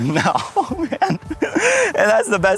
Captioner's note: laugh